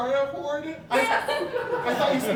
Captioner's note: audience Laughing